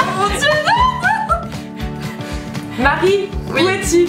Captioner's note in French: rires